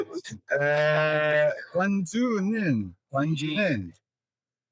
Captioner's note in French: en coréen